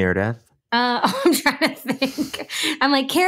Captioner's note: laughs